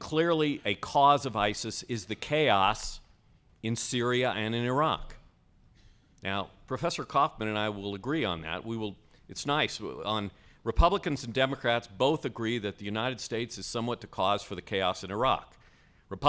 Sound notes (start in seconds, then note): none